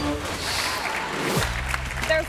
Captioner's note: audience cheering